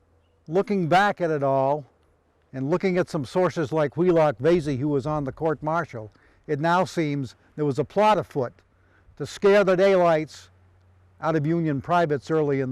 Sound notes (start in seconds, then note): none